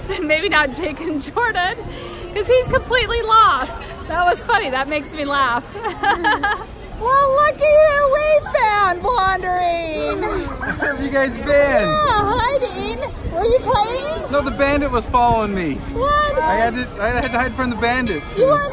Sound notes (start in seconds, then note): 5.8 laughing